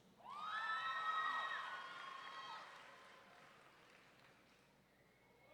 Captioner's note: audience members cheering